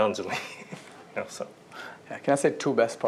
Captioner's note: laughter